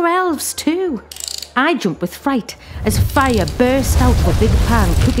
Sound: whoosh

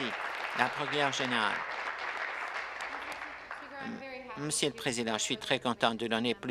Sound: applause

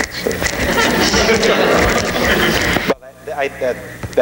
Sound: audience laughing

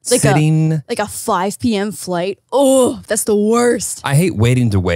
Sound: groans

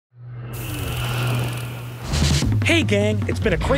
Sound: text whooshes

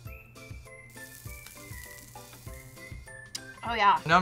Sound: fire crackles

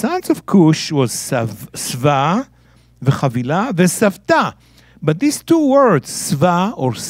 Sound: speaking in Hebrew

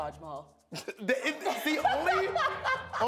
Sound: laughter

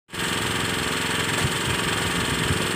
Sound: engine sound continues

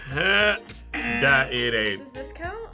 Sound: buzzer

